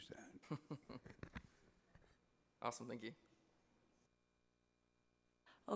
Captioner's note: laughs